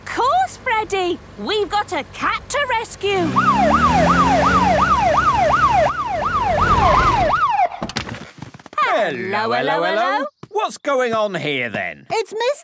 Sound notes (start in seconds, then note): 3.2 siren